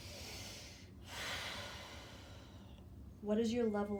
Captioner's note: breathing deeply